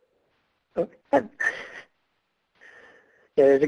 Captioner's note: laughs